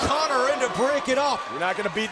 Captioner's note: crowd cheering